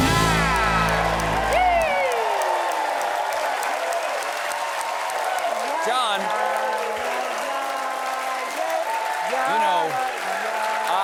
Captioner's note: cheers and applause